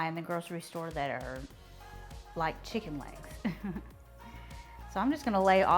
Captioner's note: laughs